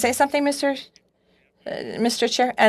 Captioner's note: speaking FRENCH